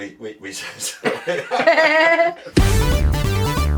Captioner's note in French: rires